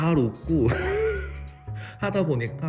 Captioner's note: laughter